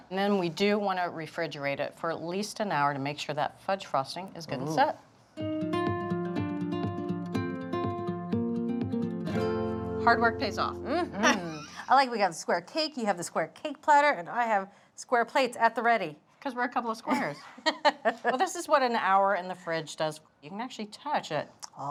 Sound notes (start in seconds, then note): 5.4 gentle music; 10.8 laughs; 17.0 laughs